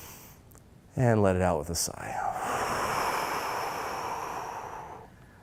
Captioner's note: loud exhaling